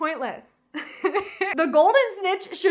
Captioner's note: laughs